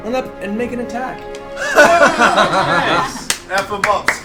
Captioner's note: all laugh